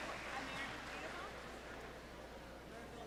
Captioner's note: cheers and applause